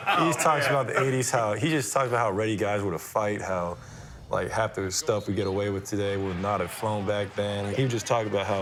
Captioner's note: laughter